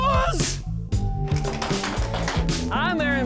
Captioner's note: clapping